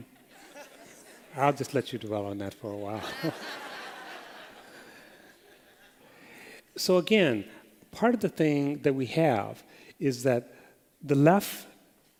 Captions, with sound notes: [LAUGHTER] I'll just let you dwell on that for a while. [LAUGHTER] So again, part of the thing that we have is that the left